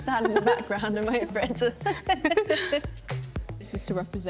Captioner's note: laughs